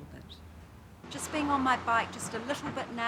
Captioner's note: car engine revs